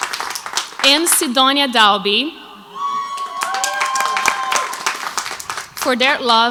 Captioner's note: crowd applauds